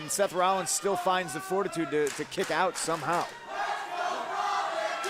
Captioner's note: crowd cheering